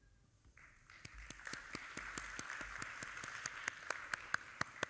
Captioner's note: audience applauding